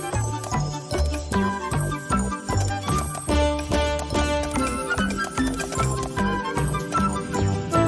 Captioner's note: popcorn popping